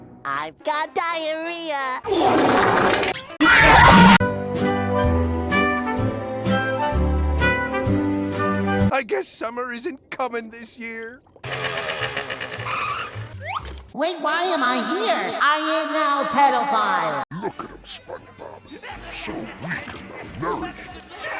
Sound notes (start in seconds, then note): 18.6 Krabs Laughter In Background